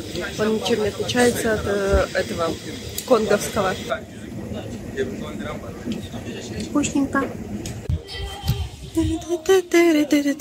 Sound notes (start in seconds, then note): 6.6 people talking; 8.8 humming